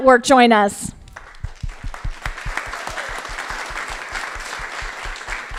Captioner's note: crowd applauding